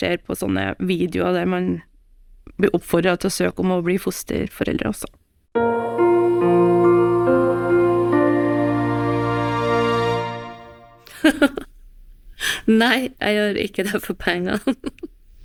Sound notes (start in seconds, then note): 11.1 foster mother laughs; 14.5 ha ha